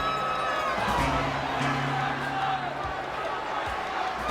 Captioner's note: crowd cheers